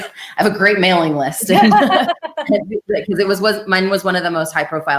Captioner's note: laughter